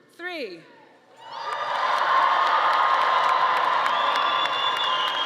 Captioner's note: audience cheering